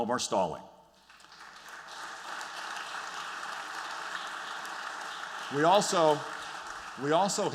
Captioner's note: applause